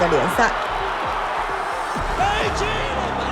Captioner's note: crowd cheering